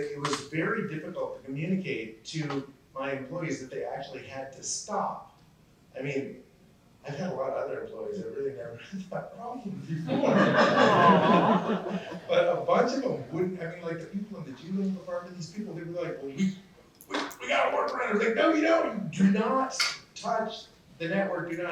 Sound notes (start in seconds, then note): 10.0 laughter